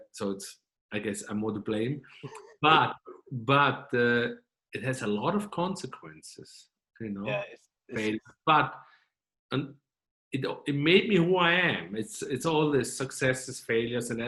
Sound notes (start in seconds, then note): 2.2 chuckling